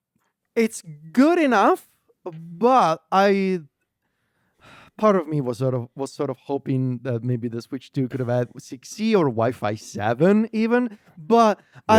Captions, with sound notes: it's good enough, but I... (sighs) Part of me was sort of, was sort of hoping that maybe the Switch 2 could've had 6E or WiFi 7 even, but-